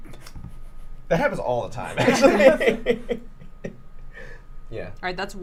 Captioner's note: laughs